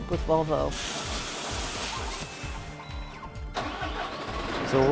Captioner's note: machine noises